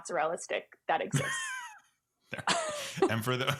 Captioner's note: laughs